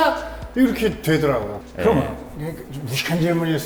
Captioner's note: hesitant